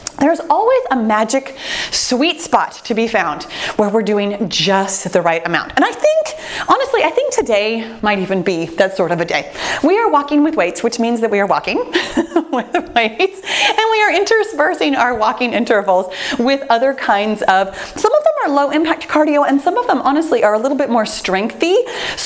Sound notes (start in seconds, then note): 11.9 chuckles